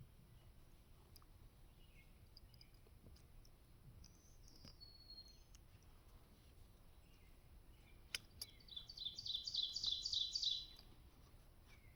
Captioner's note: birds chirping